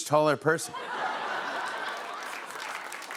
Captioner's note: laughter